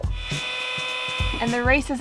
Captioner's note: machine whirring